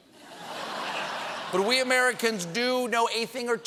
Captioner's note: laughter